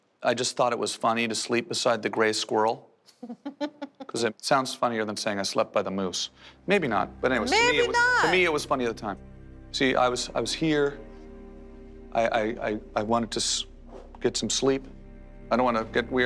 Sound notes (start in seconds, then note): 3.2 laughs